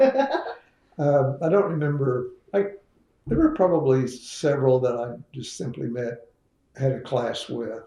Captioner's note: laughter